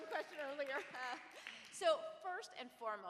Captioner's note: audience applauds